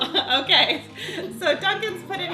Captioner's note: laughs